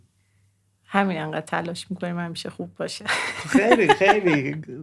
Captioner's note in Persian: خنده